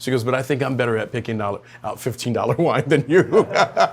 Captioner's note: laughs